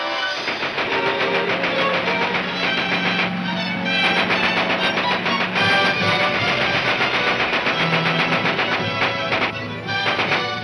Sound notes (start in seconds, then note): 0.2 gunshots banging; 6.0 gunshots banging